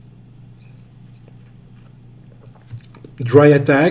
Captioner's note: wine gurgles